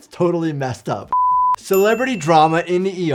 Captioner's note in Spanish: pitido en pantalla